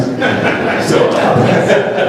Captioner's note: laughter